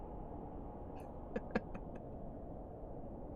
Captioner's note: laugh